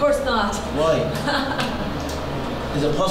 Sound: laughing nervously

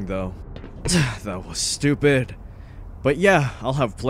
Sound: sharp grunt

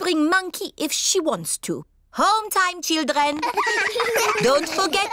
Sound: all giggle

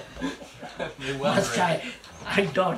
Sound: laughs

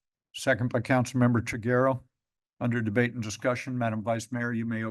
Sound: none

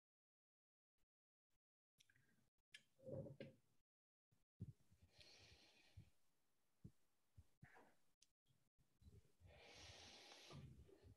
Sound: silence while everyone is being connected

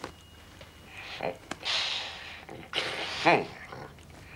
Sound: groans

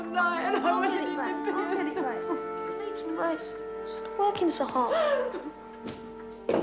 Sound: mumbled talking and crying

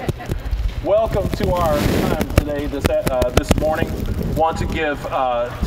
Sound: scattered chuckling; static crackling

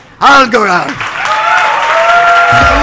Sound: crowd cheering; upbeat music

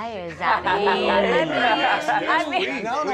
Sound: laughter

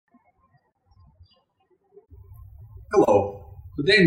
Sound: birds chirping

